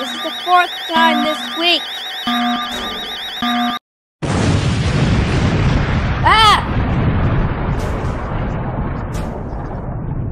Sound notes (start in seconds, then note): 2.5 clang; 4.2 volcano Erupting